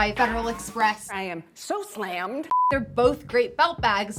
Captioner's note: beeping